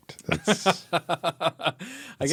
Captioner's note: laughing